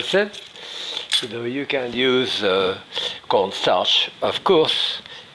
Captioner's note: sniffs; sniffs